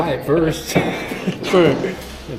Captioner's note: laughing